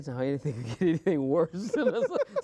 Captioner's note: laughing